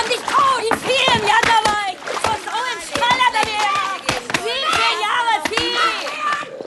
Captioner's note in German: Geschrei